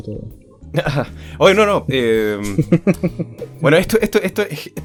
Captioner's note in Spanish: risas